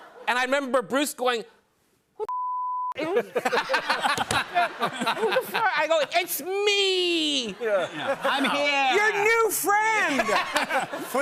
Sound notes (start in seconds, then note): 3.0 laughter